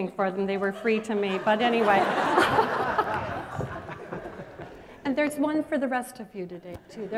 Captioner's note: laughter